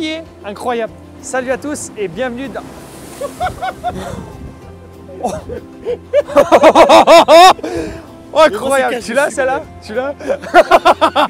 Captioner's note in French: rires